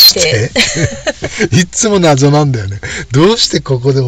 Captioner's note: laughs